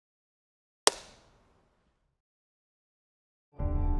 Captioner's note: clapperboard thuds; pensive music